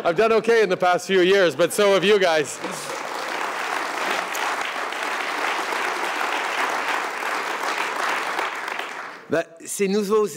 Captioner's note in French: Rires et applaudissements